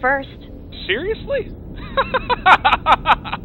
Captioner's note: laughs